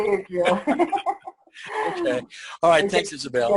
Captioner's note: chuckling